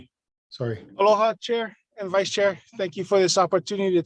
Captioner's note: speaks in a foreign language